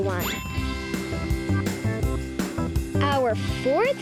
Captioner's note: bell dinging